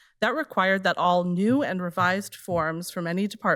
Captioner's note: none